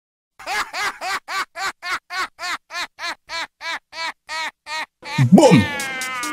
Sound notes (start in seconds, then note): 0.4 psychopath laugh